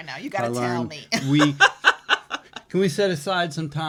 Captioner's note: laughs